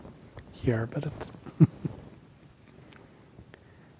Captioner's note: laughs